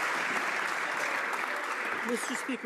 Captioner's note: some Applause